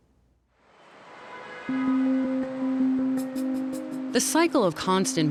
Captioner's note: car horns honking